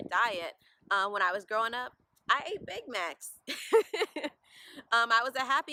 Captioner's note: laugh